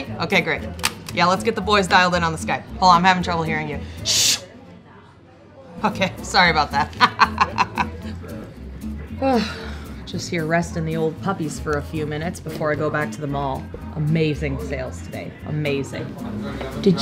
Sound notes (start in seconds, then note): 4.0 shushing; 6.8 hearty laughter; 9.2 exhausted sighing